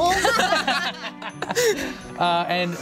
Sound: laughing

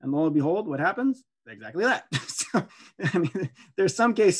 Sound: laughing

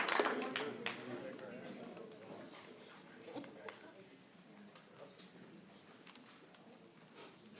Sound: applause

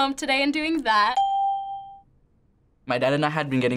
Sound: ding

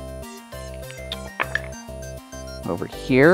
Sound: dice clattering

